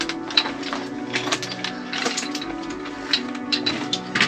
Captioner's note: footsteps crunching